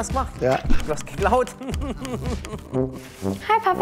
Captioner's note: Er lacht